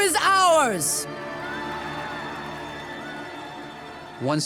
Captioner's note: cheering